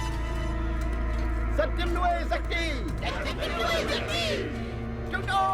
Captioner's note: speaking alien language